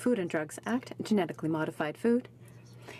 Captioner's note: speaking french